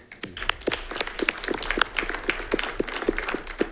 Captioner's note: all clapping